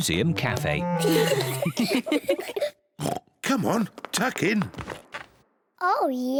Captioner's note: oinks; all giggle